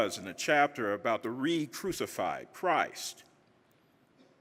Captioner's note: none